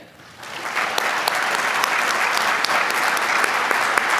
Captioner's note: applause